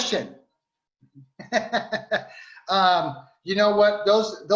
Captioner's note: laughing